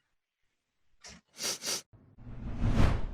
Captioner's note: sniffs